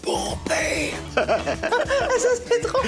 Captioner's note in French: rires